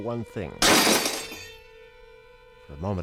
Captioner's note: glass breaking